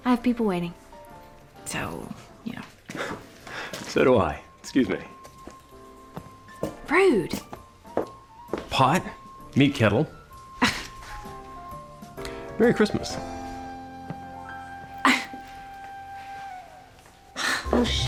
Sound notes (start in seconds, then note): 10.4 scoffs; 14.9 scoffs